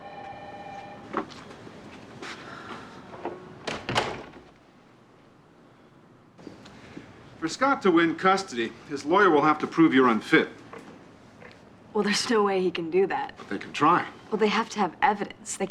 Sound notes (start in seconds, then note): 0.0 telephone ringing; 2.3 exhales